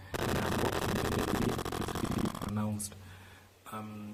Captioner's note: audio glitch